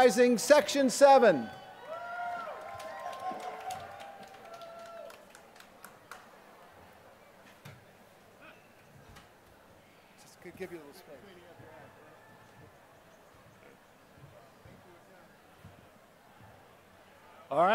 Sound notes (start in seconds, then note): 1.7 applause